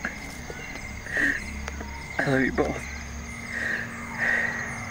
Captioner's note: voice breaking